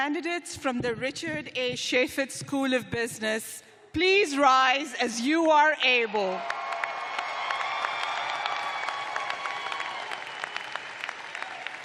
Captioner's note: cheers and applause